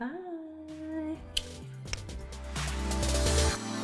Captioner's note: kiss; electronic music